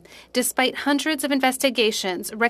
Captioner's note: speaking French